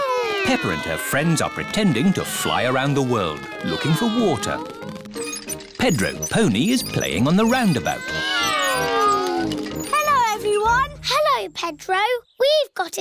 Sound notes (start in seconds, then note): 4.7 all mimicking aeroplane sounds